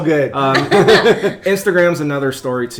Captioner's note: laughing